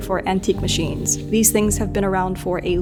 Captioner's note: towel rustles